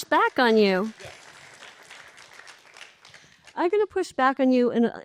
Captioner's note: applause